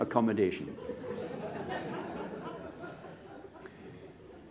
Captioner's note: laughter